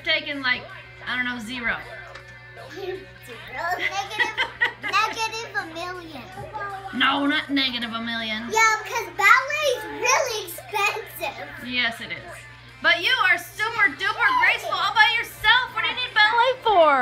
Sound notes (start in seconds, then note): 3.3 laughing